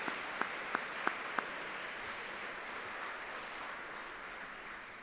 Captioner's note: audience clapping